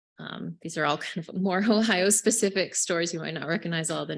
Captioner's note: chuckling